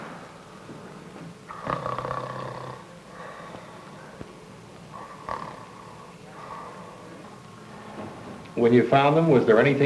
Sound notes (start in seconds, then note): 1.5 snoring